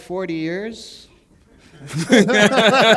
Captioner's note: laughter